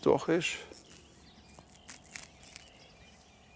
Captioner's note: birds chirping